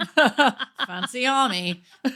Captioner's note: laughing